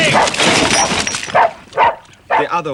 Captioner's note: montmorency barking